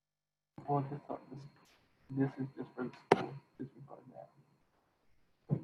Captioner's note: faintly speaking